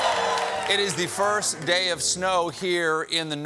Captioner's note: cheers and applause